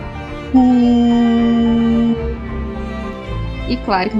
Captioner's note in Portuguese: Voz de Câmera Lenta